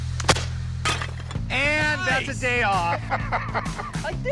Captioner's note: laughter